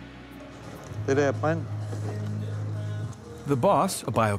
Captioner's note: speaking in foreign language